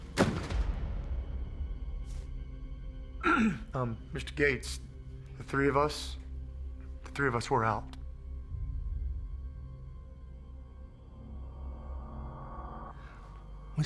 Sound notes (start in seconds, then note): 3.2 clears throat